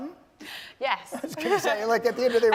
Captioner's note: laugh